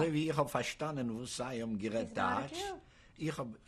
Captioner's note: speaking yiddish